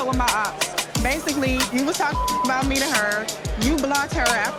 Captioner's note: beep